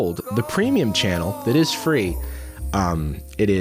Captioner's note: disembodied voice